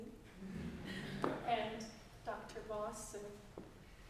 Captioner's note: audience laughing